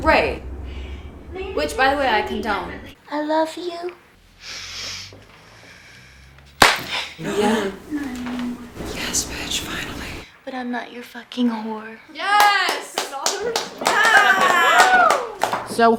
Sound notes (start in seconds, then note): 6.6 slap; 12.3 everyone is clapping and cheering